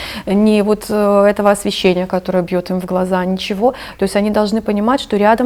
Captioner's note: none